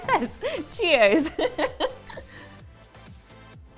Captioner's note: laughing